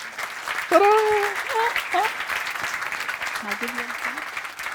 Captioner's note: applause